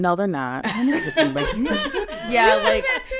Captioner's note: all laughing